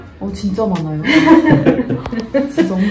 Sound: laugh

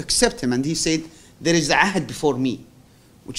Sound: non-english

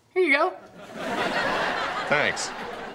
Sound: laughing

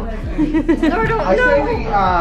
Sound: laughs

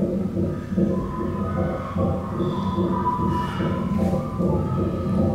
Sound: tonal wind noises

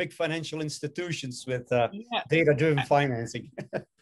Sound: laughing

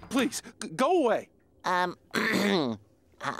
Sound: clearing throat

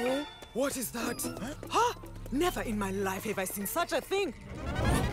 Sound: gasps

